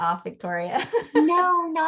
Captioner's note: laughs